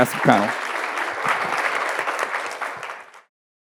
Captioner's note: audience clapping